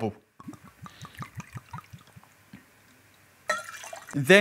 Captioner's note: pouring liquid